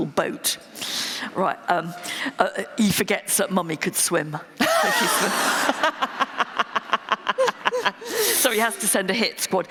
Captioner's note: laughter